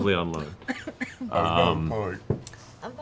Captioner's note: coughs